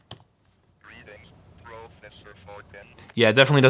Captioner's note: robotic Voice